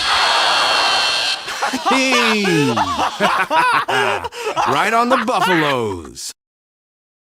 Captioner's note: laughing